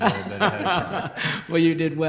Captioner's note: laughter